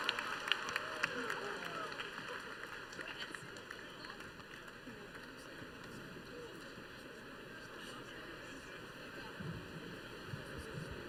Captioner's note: cheering and Applause